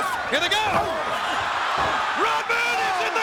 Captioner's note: audience cheering